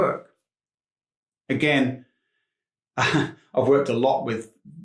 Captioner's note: chuckles